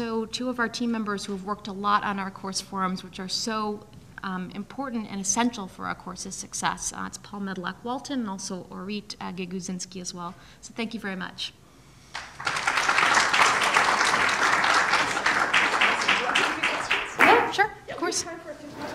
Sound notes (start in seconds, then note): 12.1 applause